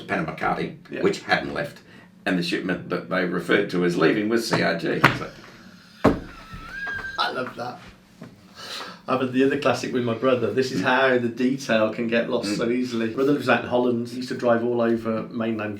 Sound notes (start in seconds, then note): 6.1 laughs